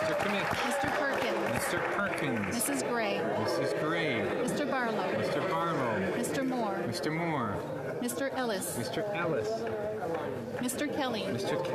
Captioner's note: calling of recorded vote